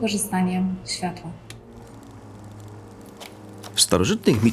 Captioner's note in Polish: odgłos rzutnika